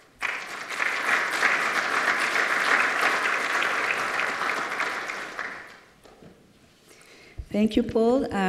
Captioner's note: applause